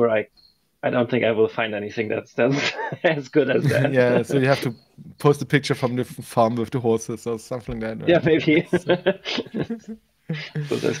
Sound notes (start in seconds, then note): 3.5 laughs; 8.0 laughs